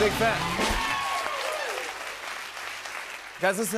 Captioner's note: cheers and applause